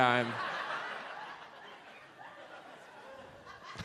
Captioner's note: audience laughs